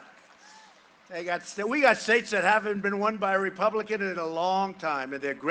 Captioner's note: cheering and applause